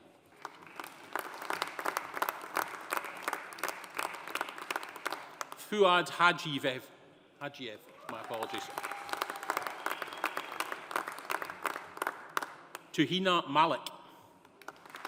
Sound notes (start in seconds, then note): 0.3 audience applauding; 7.9 audience applauding; 8.0 audience cheering; 14.6 audience applauding